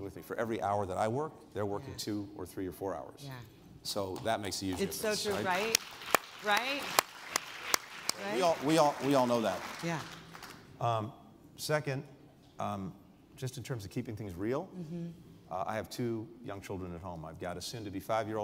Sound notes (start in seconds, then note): 5.1 applause